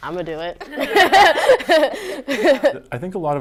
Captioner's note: laughing